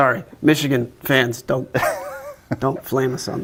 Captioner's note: chuckling